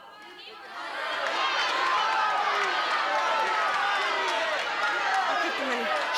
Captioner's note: audience Shouting